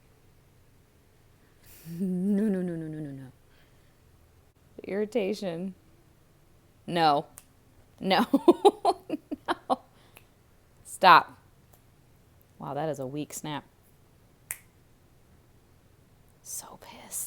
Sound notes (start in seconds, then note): 7.6 laughing; 8.2 chuckles; 11.0 quietly snaps fingers; 14.4 snaps fingers again